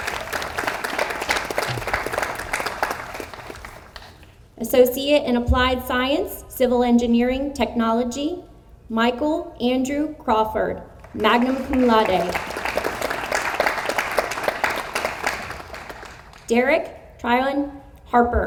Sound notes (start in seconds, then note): 0.0 audience applauds; 11.0 audience applauds